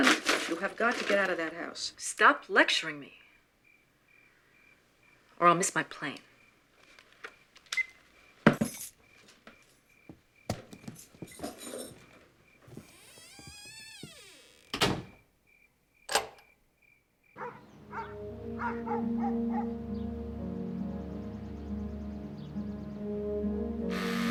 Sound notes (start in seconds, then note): 7.9 phone beeping; 10.5 crickets chirping; 12.6 door creaking; 17.3 dog barking; 20.0 soft suspenseful music